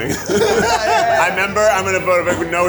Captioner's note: all laugh